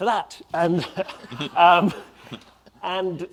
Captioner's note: audience laughs